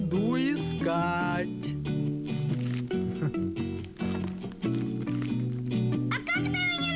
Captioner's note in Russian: шуршание